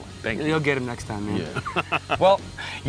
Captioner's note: laughs